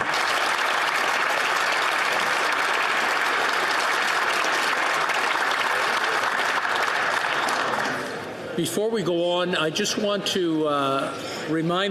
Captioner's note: some Applause